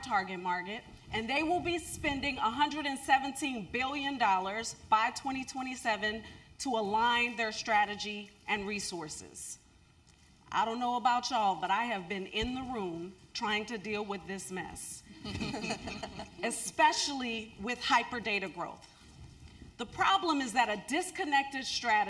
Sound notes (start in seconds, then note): 15.2 laugh